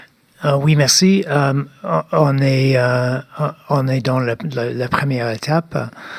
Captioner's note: speaking French